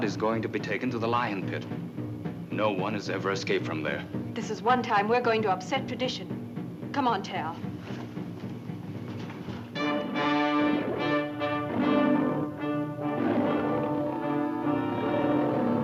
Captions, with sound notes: They say Rod is goio be taken to the lio! No one has ever escaped. - This is one time e going to upset trad! Come on, Tal! (dramatic music) (roaring)